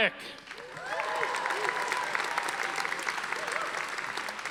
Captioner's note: audience applauding